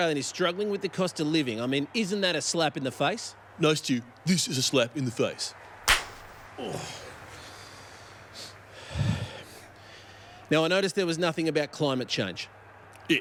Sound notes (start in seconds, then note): 5.8 slap; 8.7 breathes heavily